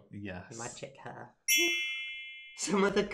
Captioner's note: shimmering sound